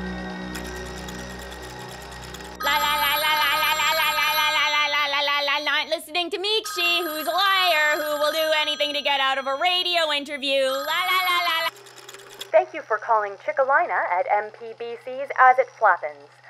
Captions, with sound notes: [phone ringing] La la la la la la la la la la la la la! Not listening to Miikshi! Who's a liar! Who will do anything to get out of a radio interview! La la la la la Thank you for calling Chickelyna at MPBC's "As It Flappens".